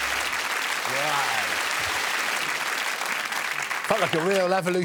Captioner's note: audience clapping